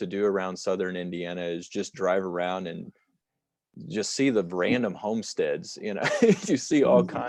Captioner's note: laughter